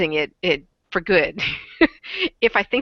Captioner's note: laughs